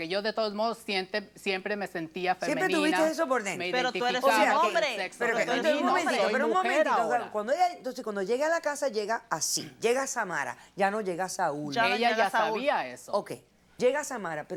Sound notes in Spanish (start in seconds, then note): 6.4 Hablan al unísono